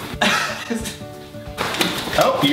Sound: nervous laugh

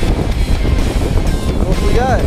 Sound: wind rustling

